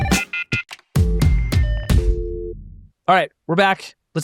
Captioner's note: phone ringing; upbeat music; dial tone purring; keys dialing